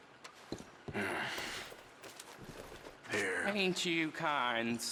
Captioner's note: sighs